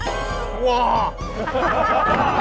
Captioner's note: A mighty shudder